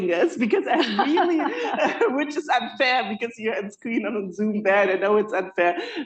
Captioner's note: laughter